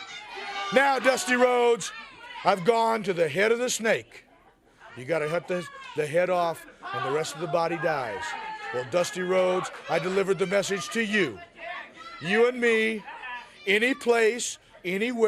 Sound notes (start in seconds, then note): 8.5 crowd chatter